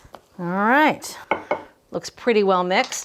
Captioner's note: spoon thumping